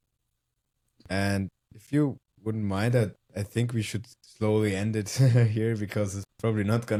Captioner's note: chuckles